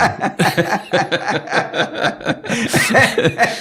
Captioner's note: laughing